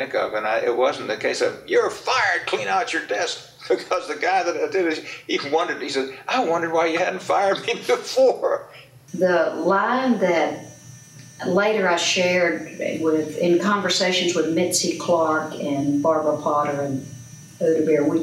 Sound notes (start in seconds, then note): 3.5 laughs; 7.4 laughs